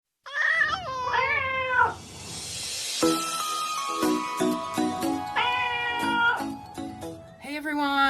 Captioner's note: cats Meowing